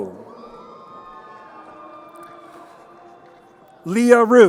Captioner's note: crowd cheering